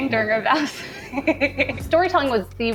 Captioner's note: laugh